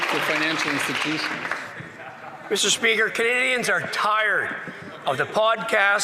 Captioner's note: some Applause